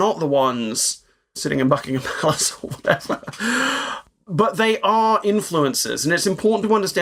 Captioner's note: laugh